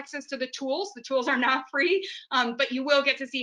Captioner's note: laughs